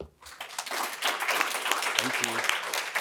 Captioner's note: audience applauds